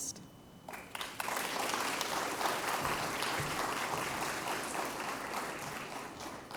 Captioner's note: applause